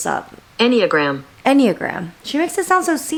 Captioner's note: robotic Voice